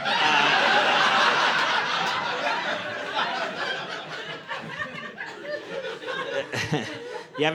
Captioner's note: audience laughing